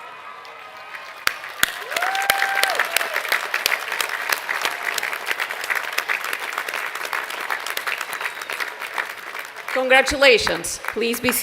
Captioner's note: applause